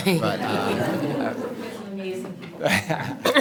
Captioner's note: everyone laughs